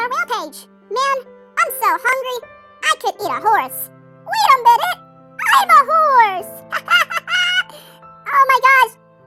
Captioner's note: laughs